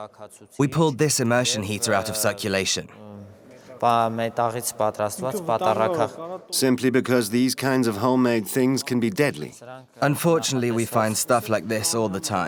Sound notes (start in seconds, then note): 3.5 voiceover